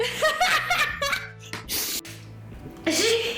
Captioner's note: laughs